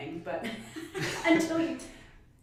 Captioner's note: laughs